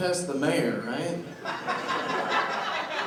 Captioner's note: laughter